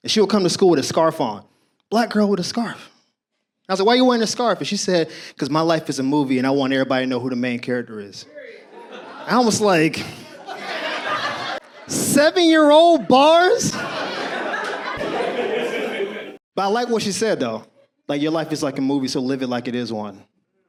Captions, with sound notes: She would come to school with a scarf on. Black girl with a scarf. I said, why you wearing a scarf? What she said, because my life is a movie, and I want everybody to know who the main character is. I was like... Seven-year-old bars? (audience laughs) But I like what she said, though. Your life is like a movie, so live it like it is one.